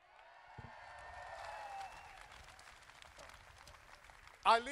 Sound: crowd applauding

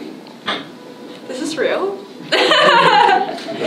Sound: laughs

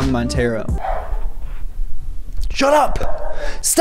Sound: barking in the background

